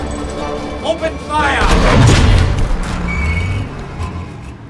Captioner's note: booming